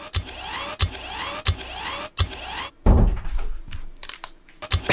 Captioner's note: mechanical sounds